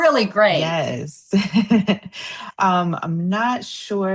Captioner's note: laughter